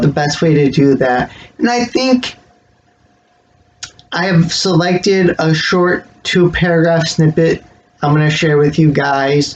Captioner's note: smacks lips